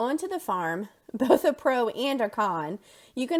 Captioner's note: laughter